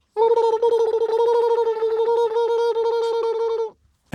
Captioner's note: trills